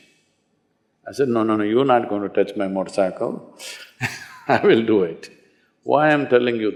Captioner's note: laughs